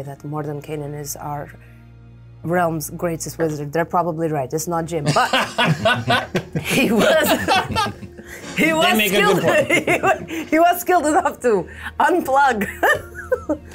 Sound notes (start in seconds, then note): 5.0 all laughing